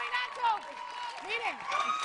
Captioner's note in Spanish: aplausos